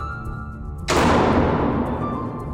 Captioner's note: door slamming